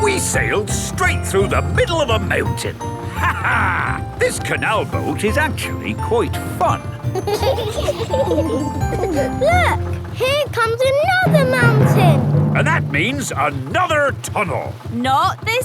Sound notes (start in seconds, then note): 3.1 laughs; 6.8 kids giggling